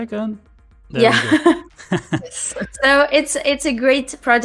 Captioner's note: laughter